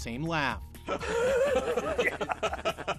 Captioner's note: Jeff laughing; laughing